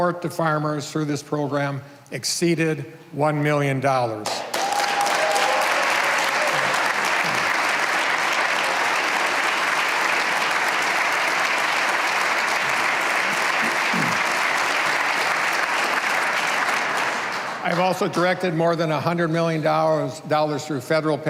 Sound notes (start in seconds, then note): 7.4 cheers and applause